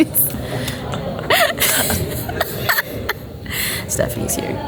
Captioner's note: giggling